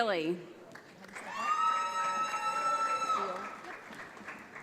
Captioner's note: audience applauds